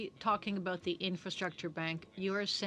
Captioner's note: speaking French